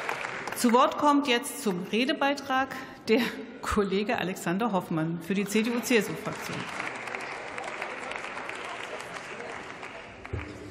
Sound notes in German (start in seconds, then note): 5.5 Beifall